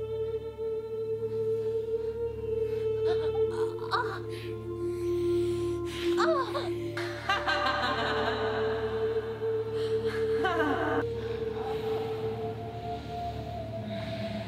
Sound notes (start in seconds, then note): 2.0 groaning; 6.9 evil Laughter